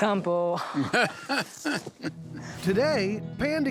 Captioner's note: laughing